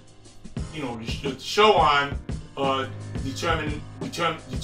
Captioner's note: stutters